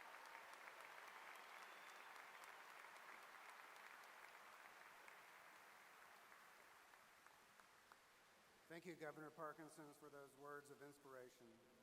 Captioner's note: applause